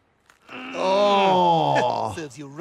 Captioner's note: Brian groaning